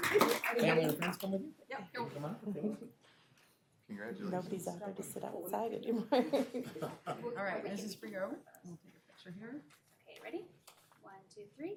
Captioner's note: applause